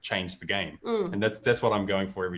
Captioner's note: laughing